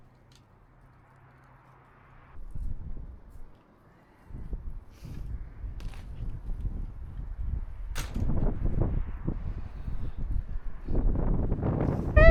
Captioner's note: wind